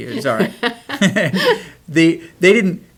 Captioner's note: laughing